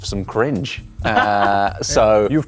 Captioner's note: laughing